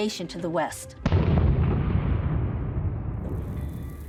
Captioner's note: explosion